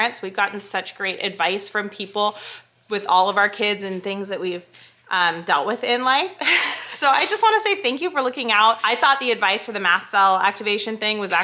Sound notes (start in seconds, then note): 6.4 chuckles